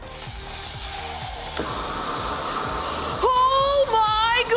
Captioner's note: flamethrower hissing